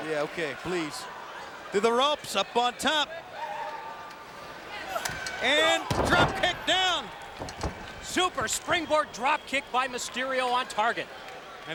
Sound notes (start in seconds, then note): 5.8 mat thumping